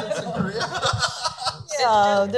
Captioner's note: laughing